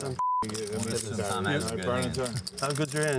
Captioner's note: beep; chattering